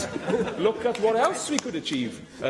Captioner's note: laughter